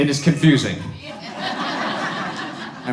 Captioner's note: audience laughs